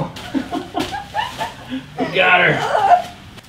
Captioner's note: laughter